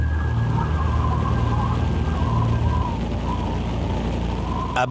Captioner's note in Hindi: हवा चल रही है